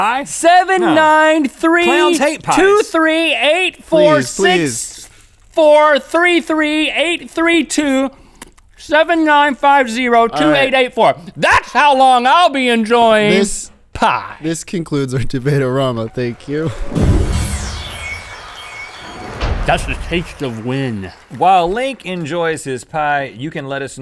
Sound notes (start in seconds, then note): 16.7 whooshing sound effects; 18.0 applause